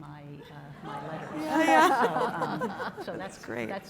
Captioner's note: laughter